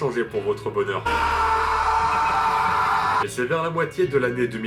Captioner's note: scream of pain